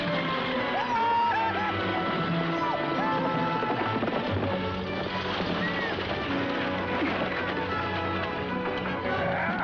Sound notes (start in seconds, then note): 0.7 screaming; 6.4 thudding; 7.5 grunting